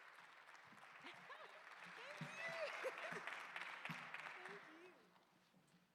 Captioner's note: attendees clapping